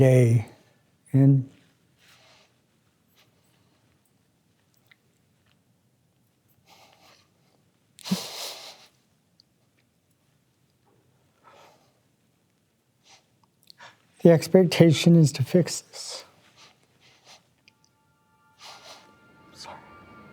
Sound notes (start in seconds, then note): 11.4 sniffles; 16.9 voice trembling